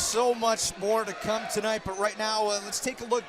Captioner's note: crowd chatter